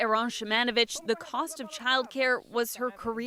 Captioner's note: speaking French